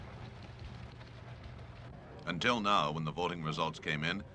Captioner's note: machines click